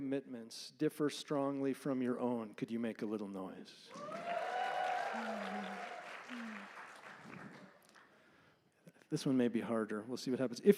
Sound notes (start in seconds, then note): 3.9 applause and cheering